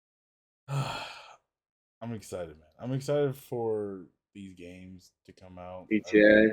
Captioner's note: sighs